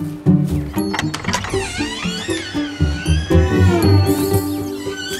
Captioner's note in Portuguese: Pássaros; Porta rangendo; Porta rangendo e fechando